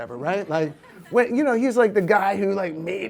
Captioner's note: audience laughs